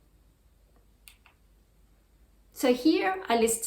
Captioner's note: mouse clicks